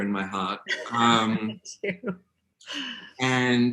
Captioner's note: laughing